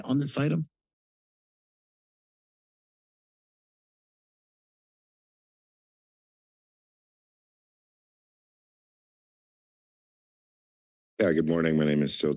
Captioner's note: silence